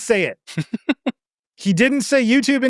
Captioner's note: laughing